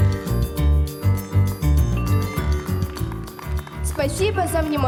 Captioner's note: applause